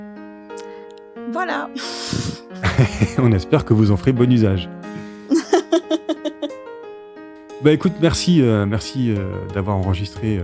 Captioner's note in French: rires